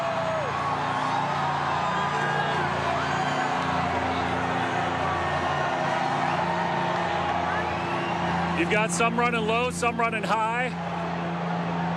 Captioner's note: applause